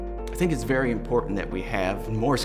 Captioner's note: none